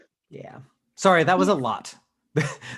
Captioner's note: laughs